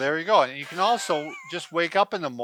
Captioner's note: laughs